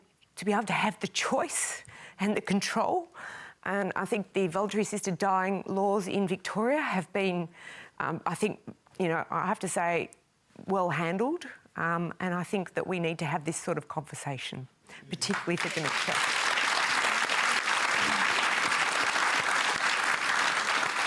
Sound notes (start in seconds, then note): 15.2 applause